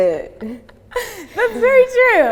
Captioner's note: laughs